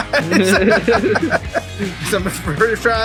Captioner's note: laughing